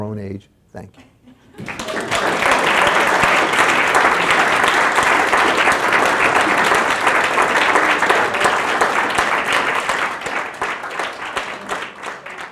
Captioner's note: applause